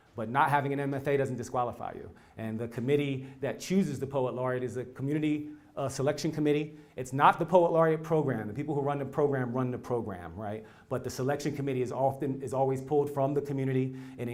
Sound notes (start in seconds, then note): none